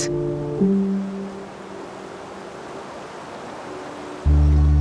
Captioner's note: water rushing